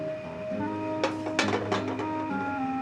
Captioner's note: clunk